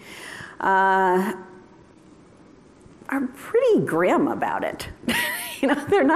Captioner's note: laughter